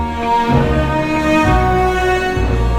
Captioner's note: music and sound of cutting and plates